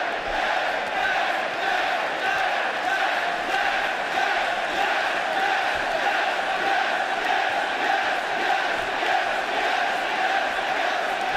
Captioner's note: fans chanting